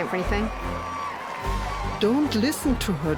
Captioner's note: crowd cheers and applauds